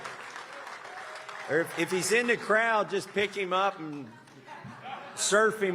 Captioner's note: applause